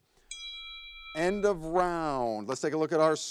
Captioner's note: timer dings